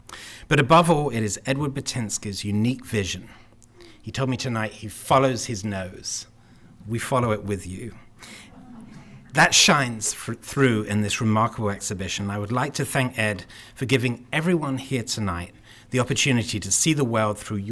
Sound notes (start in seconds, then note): 8.5 laughter